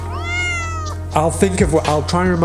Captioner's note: cat meowing